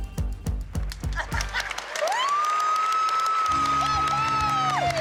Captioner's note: laughter; cheering